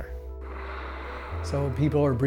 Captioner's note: water spraying